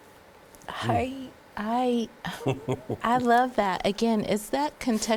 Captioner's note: laughing